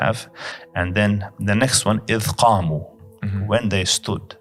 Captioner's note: Arabic